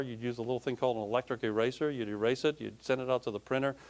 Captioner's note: none